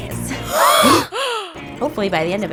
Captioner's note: gasping